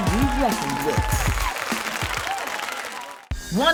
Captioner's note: audience cheering